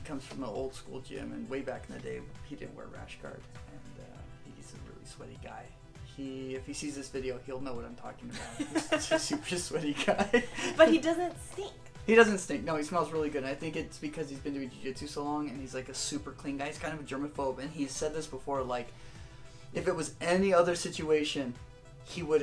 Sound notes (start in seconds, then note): 8.3 laughter